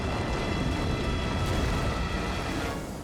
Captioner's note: flames roaring; intense dramatic music